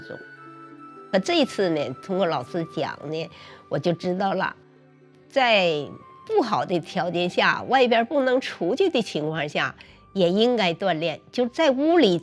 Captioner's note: speaking chinese